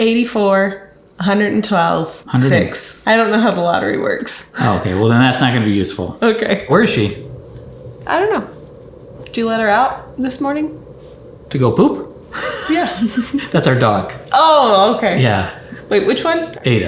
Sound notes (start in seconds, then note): 12.4 laughs